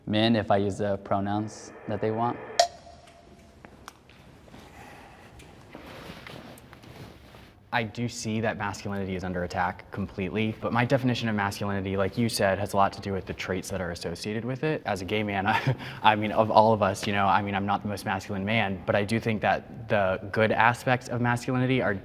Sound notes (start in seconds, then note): 15.7 chuckles